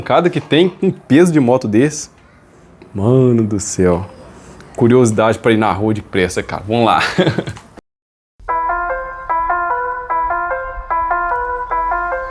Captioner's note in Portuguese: risadas